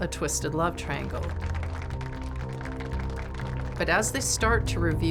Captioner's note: audience clapping